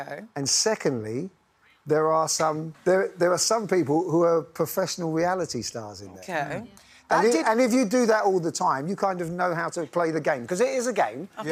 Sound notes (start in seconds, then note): none